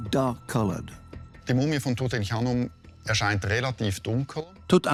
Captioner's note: speaks German